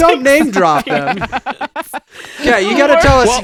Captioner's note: laughing